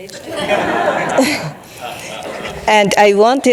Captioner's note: audience laughing